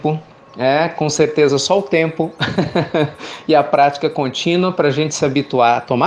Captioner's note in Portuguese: risos